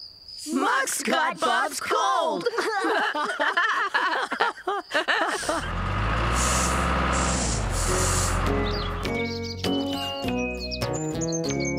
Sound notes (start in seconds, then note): 2.4 laughing; 5.4 engine Running